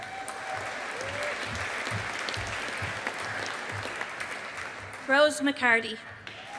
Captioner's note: audience applauding